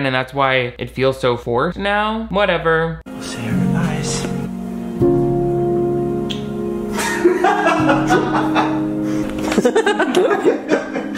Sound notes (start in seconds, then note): 4.4 sentimental music; 6.2 kissing; 6.9 Shane laughing; 9.3 laughing; 9.7 kissing